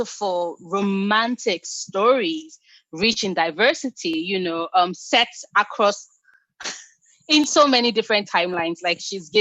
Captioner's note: laughs